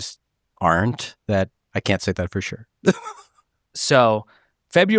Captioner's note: laughs